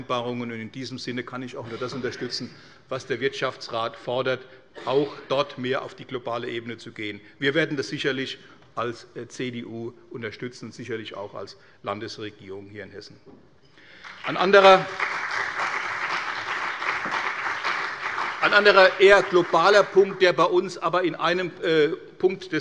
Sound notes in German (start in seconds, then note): 13.9 Beifall bei der CDU und dem BÜNDNIS 90/DIE GRÜNEN